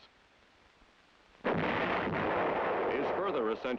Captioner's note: howitzer booms